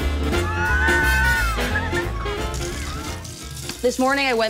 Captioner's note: playful screaming